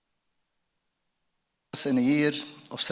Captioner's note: sound cutting out